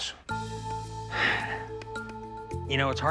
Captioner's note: sighs